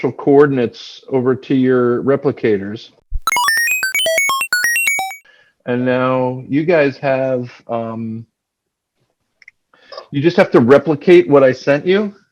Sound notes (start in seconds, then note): 3.2 space beeping sounds